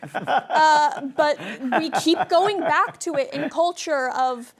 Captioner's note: laughter